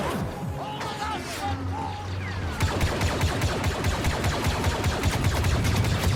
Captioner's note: guns firing; people screaming